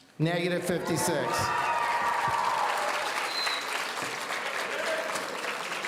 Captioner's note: audience cheering